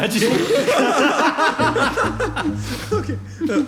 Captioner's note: Marauders laugh